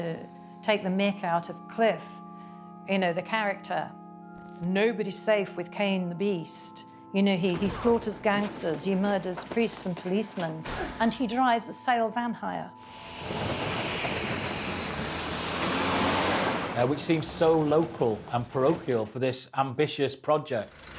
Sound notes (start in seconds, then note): 12.9 van rattling